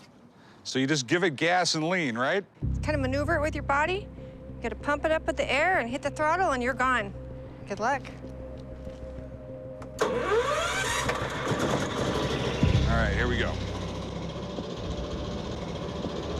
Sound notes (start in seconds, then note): 10.5 cranking